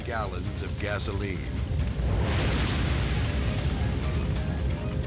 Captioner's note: flames exploding; dramatic music